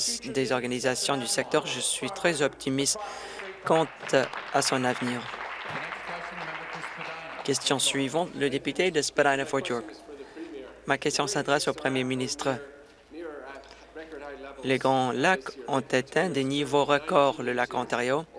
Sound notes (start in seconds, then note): 8.6 applause